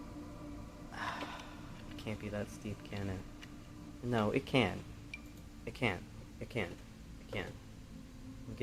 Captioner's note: sigh